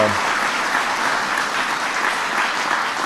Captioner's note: applause